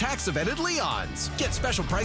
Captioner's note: SFX: heartbeat